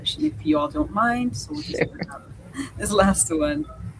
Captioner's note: chuckles